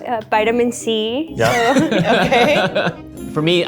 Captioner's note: all laughing